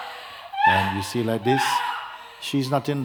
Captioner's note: screaming and crying